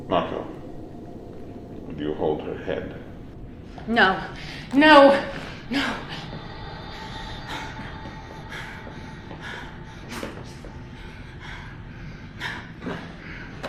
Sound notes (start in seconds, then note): 7.4 panting